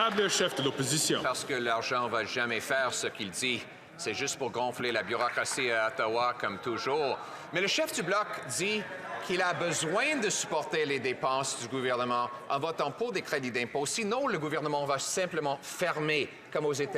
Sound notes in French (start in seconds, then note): 0.0 applaudissements